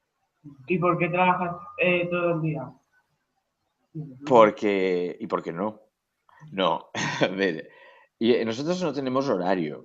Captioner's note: he laughs